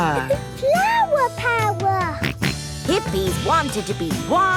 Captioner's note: George snorts